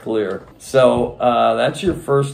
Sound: none

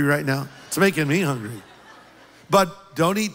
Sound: laughter

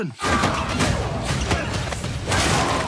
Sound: both grunting

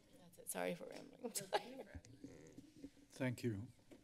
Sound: giggles

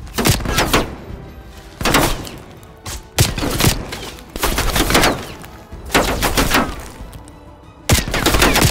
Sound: gunshots

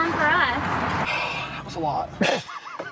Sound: sighs; laughing

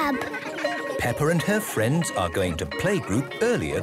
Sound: children giggling

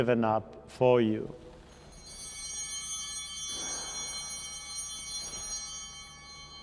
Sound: chimes ringing

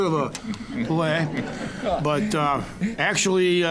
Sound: audience laughing

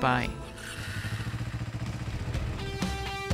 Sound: motorcycle engine revving; upbeat rock music

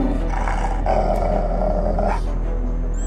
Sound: Argos growls

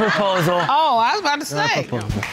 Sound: audience laughing

